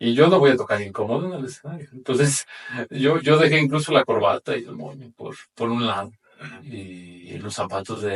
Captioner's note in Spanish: carraspeo